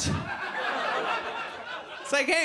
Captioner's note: audience laughs